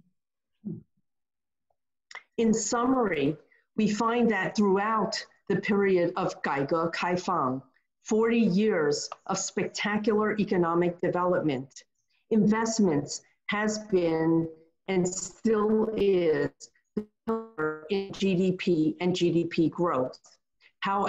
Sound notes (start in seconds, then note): 5.9 speaking in foreign language